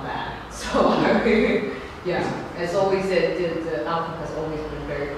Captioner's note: laughing